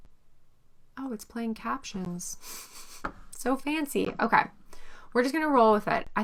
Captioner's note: giggles